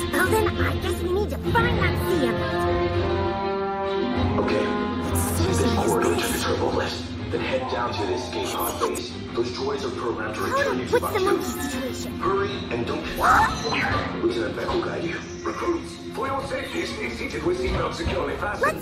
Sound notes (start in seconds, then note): 13.0 Toto Barks "Huh?